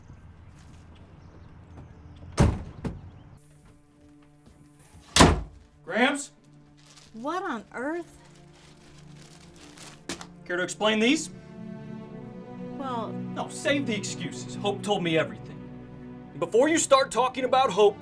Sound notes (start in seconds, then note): 0.3 gentle music; 5.1 door slams; 11.2 gentle music